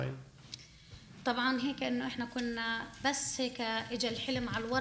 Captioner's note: speaking arabic